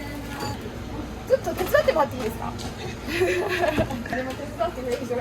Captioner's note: cameraman laughs